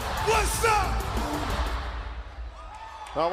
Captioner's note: crowd cheering